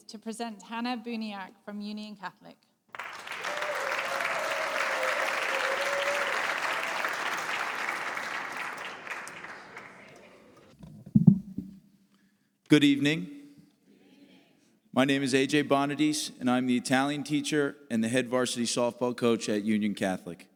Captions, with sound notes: to present Hannah Buniak from Union Catholic. [APPLAUSE] Good evening. My name is AJ Bonadies, and I'm the Italian teacher and the head varsity softball coach at Union Catholic.